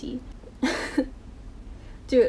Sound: laughs in pain

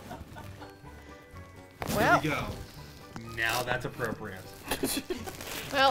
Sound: jaunty Music; laughs

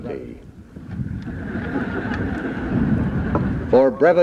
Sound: laughter

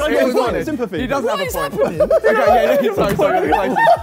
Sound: Sidemen laugh

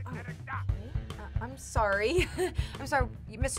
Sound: laughs

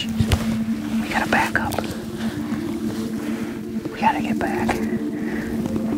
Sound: whispering

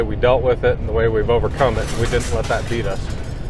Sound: glass breaks

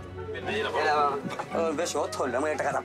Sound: Portuguese spoken audio

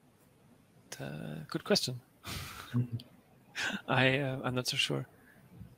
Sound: laugh

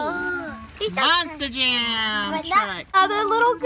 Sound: voiceover

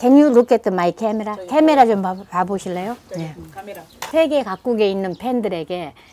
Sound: speaking foreign language

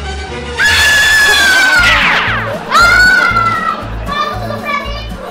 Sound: scream

